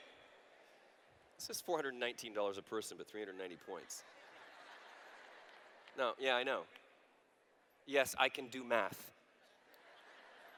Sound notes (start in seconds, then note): 3.7 laughter